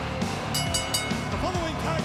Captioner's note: bell ringing